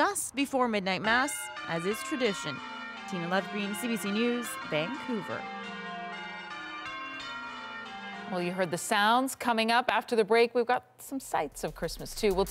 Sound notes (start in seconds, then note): 6.5 bells tolling